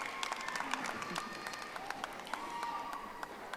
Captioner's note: audience applauding